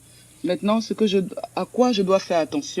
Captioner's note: speaks in French